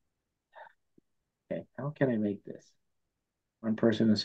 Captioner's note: sighs